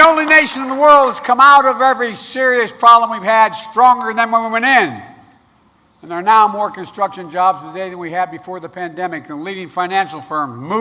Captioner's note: applause